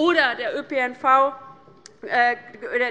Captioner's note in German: none